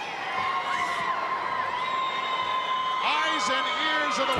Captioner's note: crowd cheering